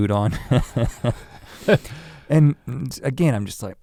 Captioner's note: chuckles